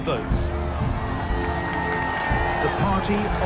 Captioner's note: sounds of cheering